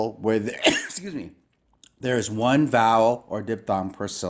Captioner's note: sneeze